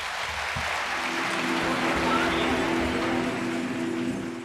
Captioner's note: audience applause